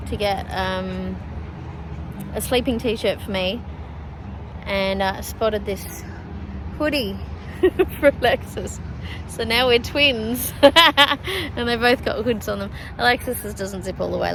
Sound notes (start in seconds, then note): 7.5 laughing; 7.5 chuckles loudly